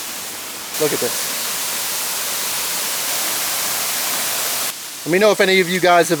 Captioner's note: waterfall